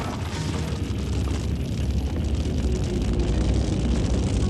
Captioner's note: fire raging; gentle music